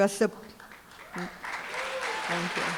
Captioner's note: applause, cheering